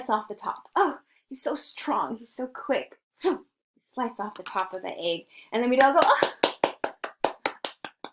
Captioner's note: claps